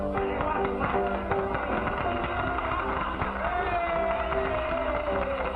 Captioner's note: applause